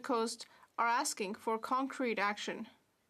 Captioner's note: none